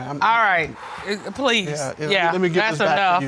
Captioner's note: audience gasping; sighs